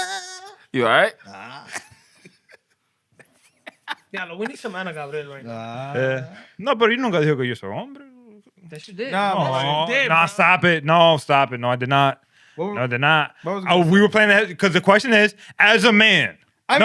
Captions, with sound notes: You all right? (Laughter) (Non-english Speech) No, but you don't got to hear me. That's your dick. No, stop it. No, stop it. No, I did not. No, I did not. We were playing the-- because the question is, as a man.